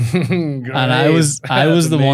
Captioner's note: laughs